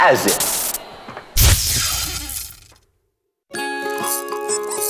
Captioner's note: light bulb breaks